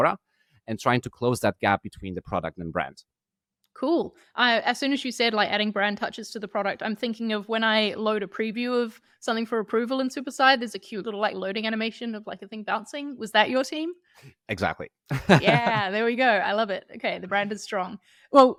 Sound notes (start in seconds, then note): 15.1 laughing